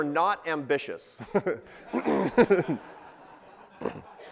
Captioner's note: laughs